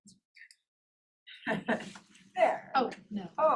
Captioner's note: laughs